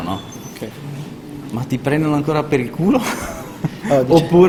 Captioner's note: laughing